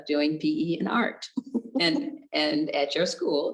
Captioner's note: chuckles